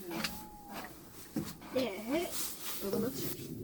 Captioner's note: owl sounds